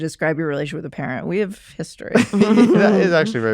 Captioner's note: others laughing